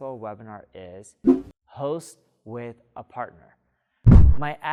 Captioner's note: air whooshing; air whooshing